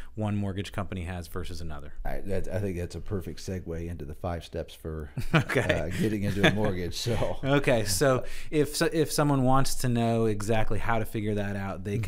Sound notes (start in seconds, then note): 5.2 laughs